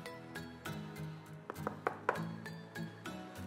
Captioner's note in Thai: เสียงเคาะโต๊ะ